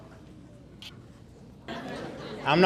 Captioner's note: audience laughing